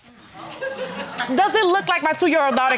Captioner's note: crowd laughing